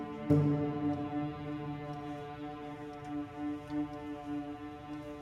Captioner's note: none